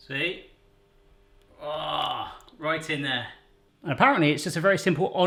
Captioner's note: groans